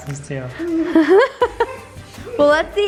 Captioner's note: laughs